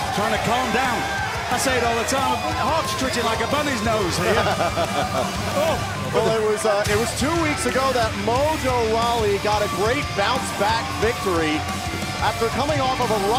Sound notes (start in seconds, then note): 3.8 laughing